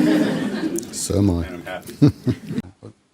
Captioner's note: laughs